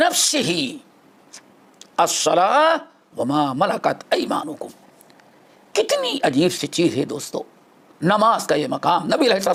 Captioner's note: in Arabic